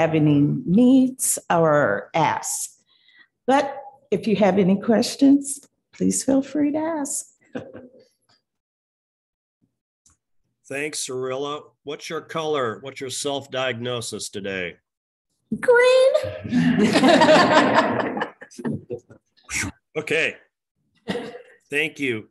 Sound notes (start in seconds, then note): 18.0 chuckling